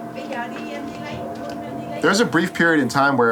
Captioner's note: speaking in a foreign language